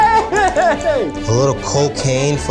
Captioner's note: laughs